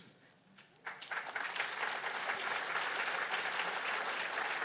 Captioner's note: applause